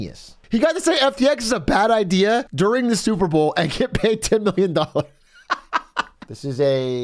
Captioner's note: laughs